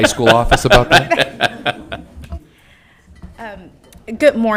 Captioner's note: all laughing